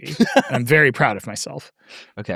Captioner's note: laughing